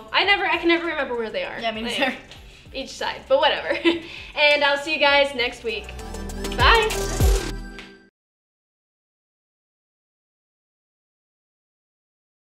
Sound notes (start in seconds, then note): 4.0 laughs; 6.8 pop music